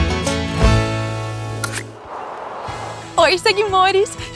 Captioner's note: clicks